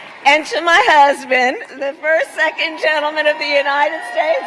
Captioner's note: applause